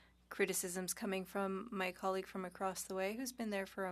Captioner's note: speaking French